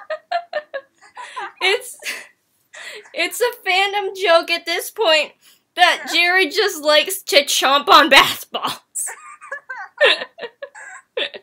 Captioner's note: more laughing; chomp; laughing